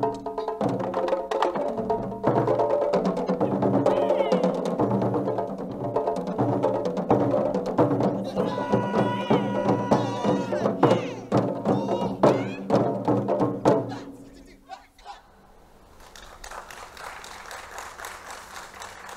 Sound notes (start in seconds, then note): 13.9 shouting in foreign language; 15.9 crowd clapping